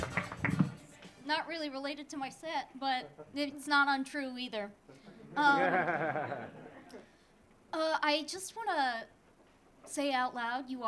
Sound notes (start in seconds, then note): 5.0 audience laughing